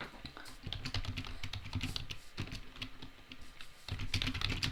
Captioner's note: keys tapping